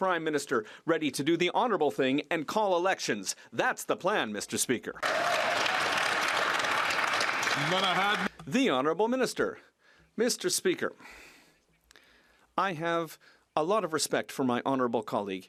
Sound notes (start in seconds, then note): 8.7 some Applause